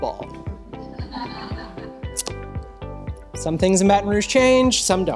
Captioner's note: laughter